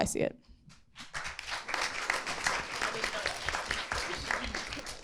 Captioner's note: audience applauding